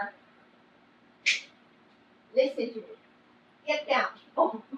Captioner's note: snaps fingers